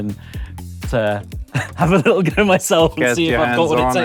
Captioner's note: laughs